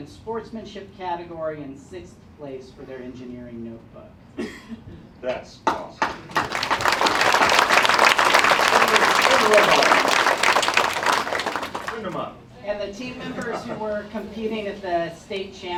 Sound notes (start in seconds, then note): 6.2 applause